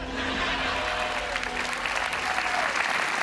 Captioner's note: applause